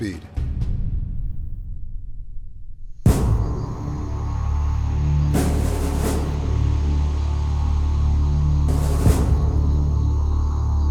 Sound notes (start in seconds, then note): 3.1 jungle sounds; 3.2 music stops